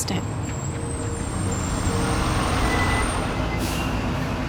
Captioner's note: brakes squeaking